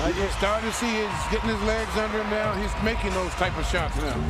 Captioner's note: cheers and applause